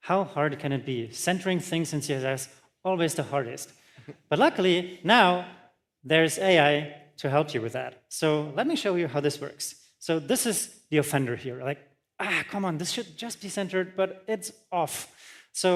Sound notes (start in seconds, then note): none